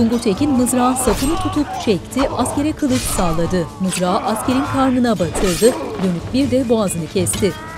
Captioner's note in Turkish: Dövüş sesleri